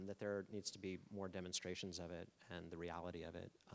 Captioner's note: none